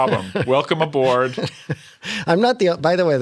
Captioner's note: laughter